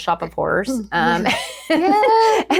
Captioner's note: both Laughing